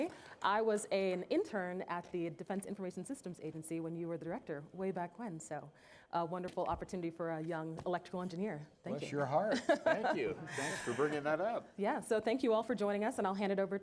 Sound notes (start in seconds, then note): 9.5 chuckling